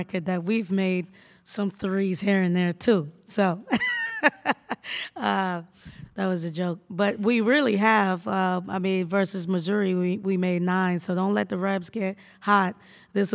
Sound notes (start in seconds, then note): 3.8 laughs